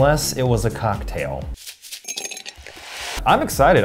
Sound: shaker shakes; ice rattles

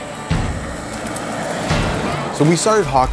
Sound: engine Revving

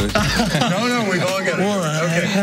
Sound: laughing

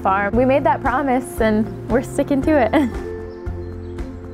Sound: laughs; serene music

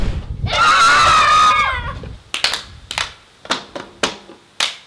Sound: kids exclaiming

